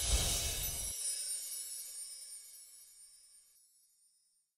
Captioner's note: shimmering sound